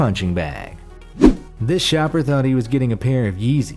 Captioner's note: air whooshes